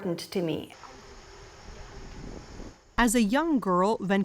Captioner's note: wind whooshing